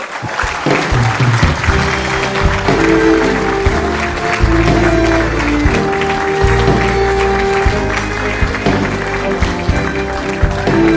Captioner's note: cheering and applause